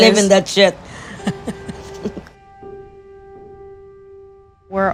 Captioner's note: laughing